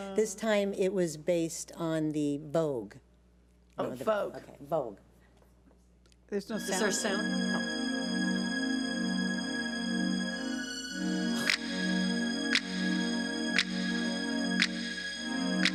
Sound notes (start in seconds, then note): 8.3 fingers snapping; 8.3 peaceful orchestral music